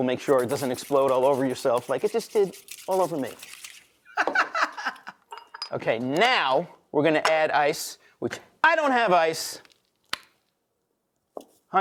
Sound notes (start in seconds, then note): 4.1 laughing; 4.1 lid clattering; 10.2 tongs click